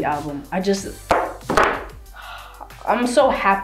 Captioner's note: sighs